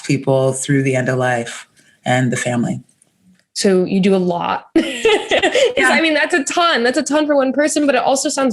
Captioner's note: chuckles